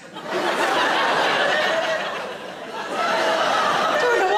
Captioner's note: audience laughing